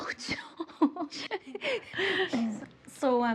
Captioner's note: both laughing